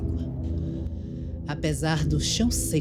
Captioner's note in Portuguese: sibilo do vento